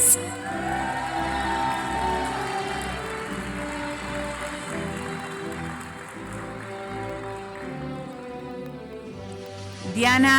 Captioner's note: applause